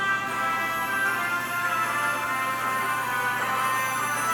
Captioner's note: bandsaw buzzing